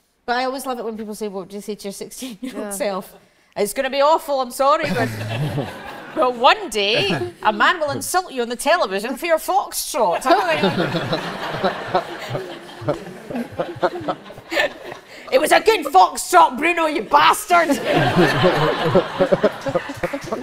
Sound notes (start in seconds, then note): 4.8 audience laughs; 10.2 audience laughs; 17.6 audience laughs and claps